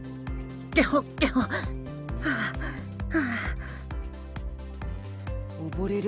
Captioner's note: cough cough